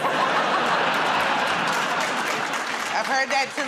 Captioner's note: laughter